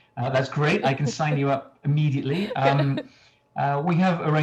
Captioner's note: laughs